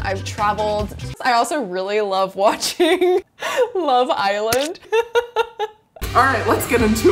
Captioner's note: laughs